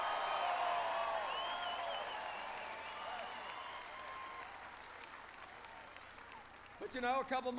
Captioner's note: applause